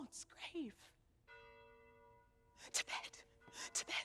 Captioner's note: bells toll